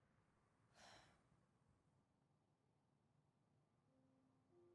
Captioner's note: person breathing